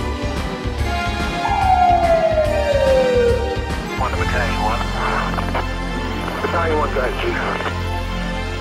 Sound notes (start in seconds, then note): 1.2 siren wailing; 3.8 radio chatter; 5.3 upbeat music